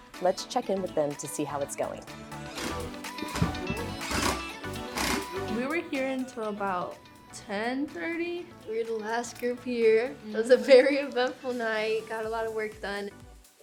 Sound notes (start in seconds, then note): 2.5 drill whirring